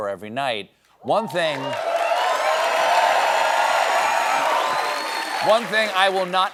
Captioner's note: cheers and applause